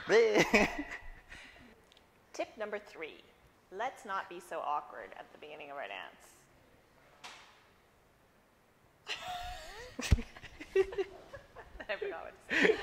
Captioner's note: awkward silence and funny faces